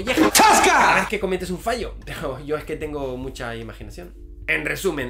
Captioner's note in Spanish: grito